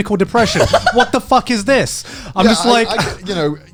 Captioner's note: laughs